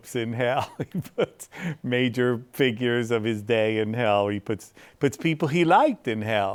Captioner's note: laughs